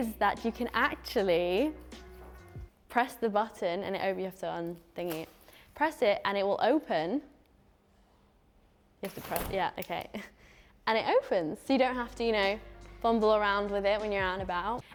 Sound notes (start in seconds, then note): 9.0 umbrella opens